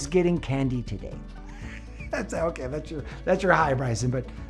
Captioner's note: laughs